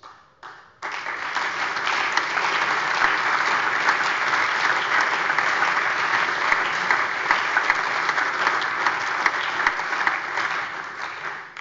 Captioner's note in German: Allgemeiner Beifall